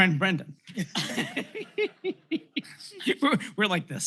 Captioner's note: laughter